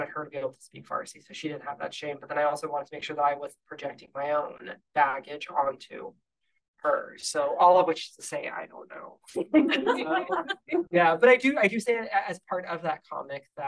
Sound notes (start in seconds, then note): 9.4 audience laughing